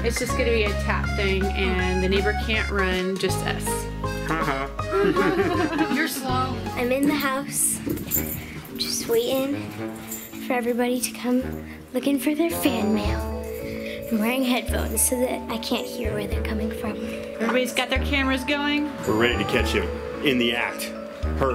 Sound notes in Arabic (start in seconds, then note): 4.3 يضحك; 4.4 الموسيقى متفائلا